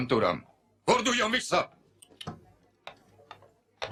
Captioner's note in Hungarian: kocsis csetteg